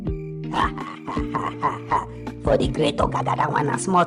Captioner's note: laughs